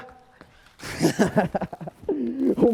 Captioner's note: laughs